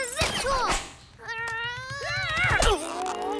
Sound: straining

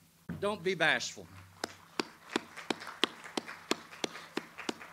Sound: audience applauds

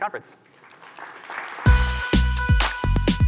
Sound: applause

